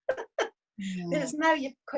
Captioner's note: laughs